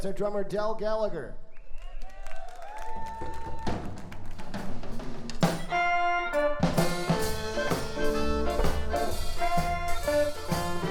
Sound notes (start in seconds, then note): 1.6 audience cheering; 5.4 fun, lighthearted music